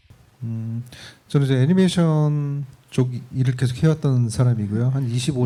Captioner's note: speaking korean